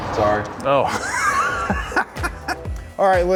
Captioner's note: laugh hilariously